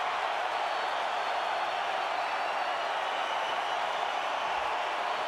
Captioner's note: crowd cheering continues